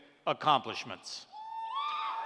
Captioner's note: cheers